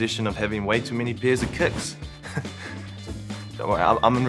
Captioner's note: chuckles awkwardly